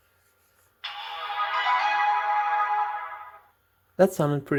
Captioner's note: epic sound effect